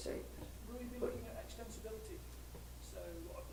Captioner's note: voiceover